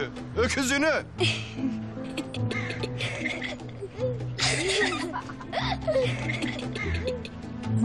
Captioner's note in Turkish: Gülüşmeler